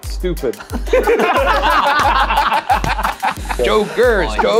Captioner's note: all laughing